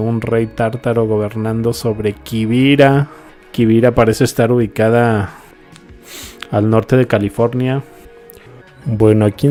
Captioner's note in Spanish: resoplido